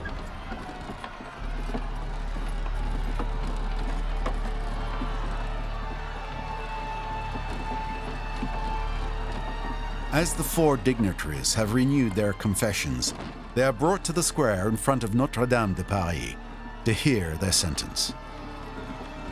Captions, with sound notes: (crowd cheers) (horse and cart noises) As the 4 dignitaries have renewed their confessions, they are brought to the square in front of Notre Dame de Paris to hear their sentence.